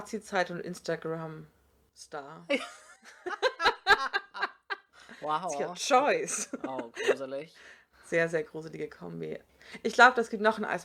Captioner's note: both laugh